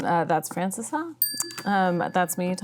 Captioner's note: bell ringing